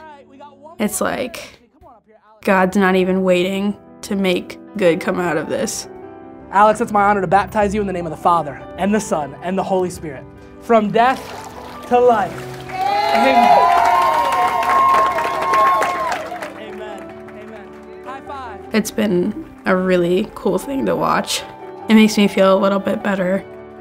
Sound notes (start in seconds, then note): 12.2 congregation cheering